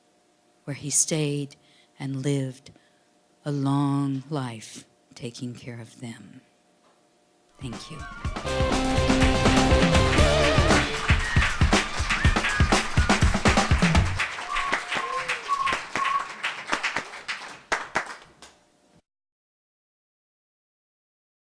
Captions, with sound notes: where he stayed and lived a long life taking care of them. Thank you. [audience clapping] [instrumental music]